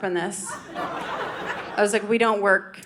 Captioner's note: audience laughing